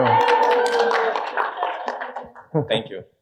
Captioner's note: audience laughing